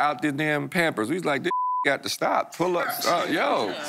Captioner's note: beep